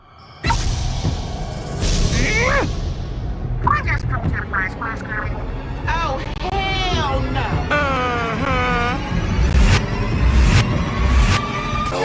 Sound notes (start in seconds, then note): 2.0 angry groaning